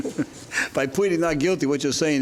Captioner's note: chuckles